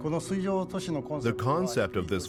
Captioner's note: speaking Japanese